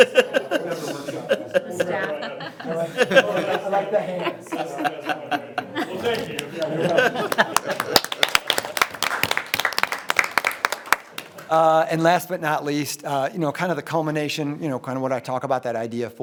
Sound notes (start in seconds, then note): 0.2 everyone laughs; 6.0 audience applauding